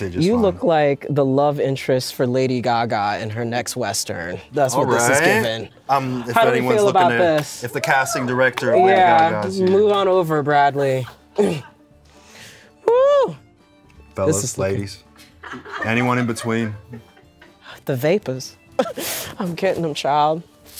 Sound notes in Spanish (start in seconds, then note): 7.7 el equipo grita; 11.3 el equipo ríe; 15.2 el equipo ríe